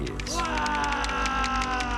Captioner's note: man screams